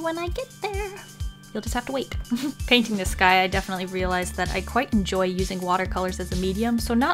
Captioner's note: snicker